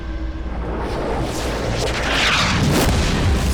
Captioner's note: none